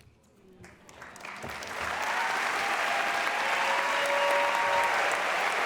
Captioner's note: audience cheers and applauds